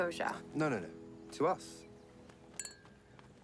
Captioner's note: clink